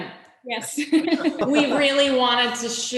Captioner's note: laughing